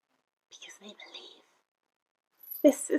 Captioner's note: whispers